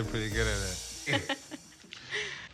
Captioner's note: laughter